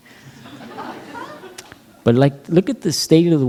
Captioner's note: laughter